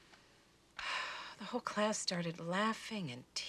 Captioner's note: sighs